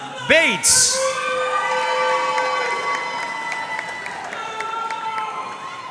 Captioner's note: audience cheering and applauding